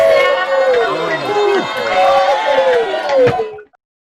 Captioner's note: students cheering